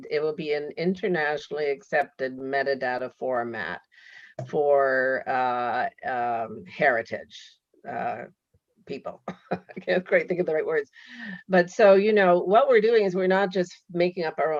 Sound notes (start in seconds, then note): 8.1 laughs